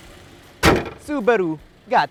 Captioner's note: engine hood closes